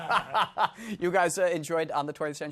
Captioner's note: laughing